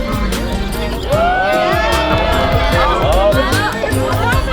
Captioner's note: cheering